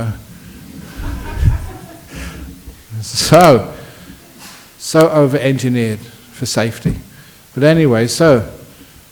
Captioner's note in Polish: Śmiech